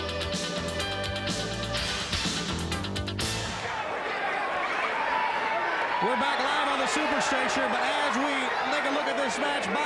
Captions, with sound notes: (fans chattering) We're back live on the super stage here, but as we take a look at this match, Bob Caudle,